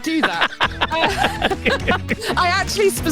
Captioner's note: laughs